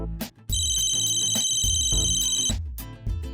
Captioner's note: cell phone rings